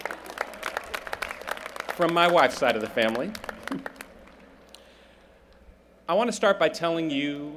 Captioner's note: applause